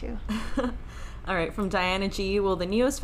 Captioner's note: chuckling